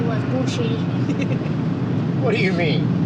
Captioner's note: Tara laughs